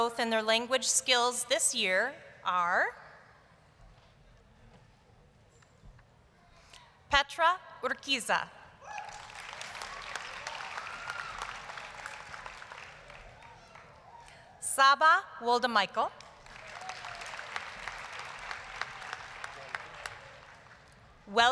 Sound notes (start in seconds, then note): 8.8 applause, cheering; 19.1 applause